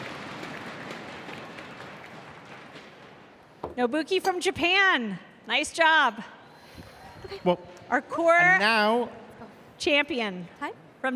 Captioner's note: cheers and applause